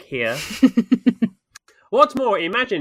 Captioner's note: laughs